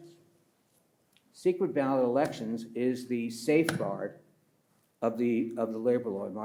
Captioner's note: pats table